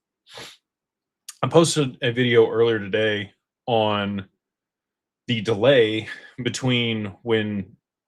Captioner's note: snorts